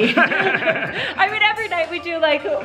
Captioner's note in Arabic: كلاهما يضحك